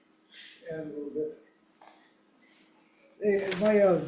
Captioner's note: speaking faintly